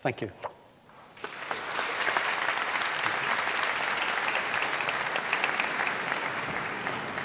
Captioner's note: applause